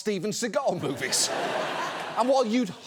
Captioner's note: audience laughs